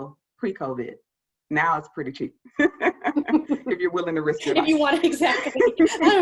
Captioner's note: laughter